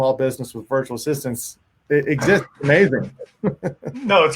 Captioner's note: laughs